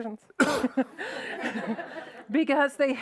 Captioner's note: audience laughs